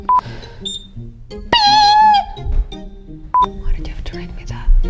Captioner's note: timer dings